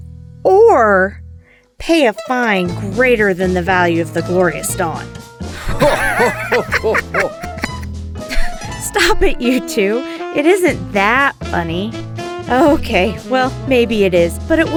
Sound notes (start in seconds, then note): 5.5 Tralnis and Gareth laughing again; 9.0 chuckles